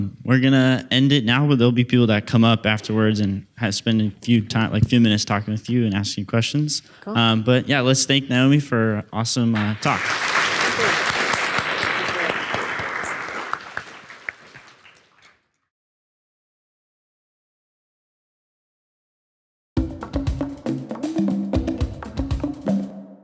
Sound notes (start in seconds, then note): 9.6 audience applauds; 19.8 upbeat jazz music